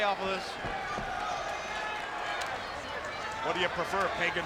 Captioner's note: spectators cheering